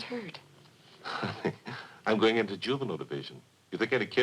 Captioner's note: Pete chuckles